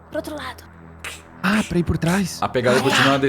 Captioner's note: plurgh, plurgh